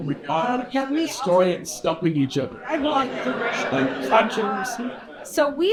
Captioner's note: laughter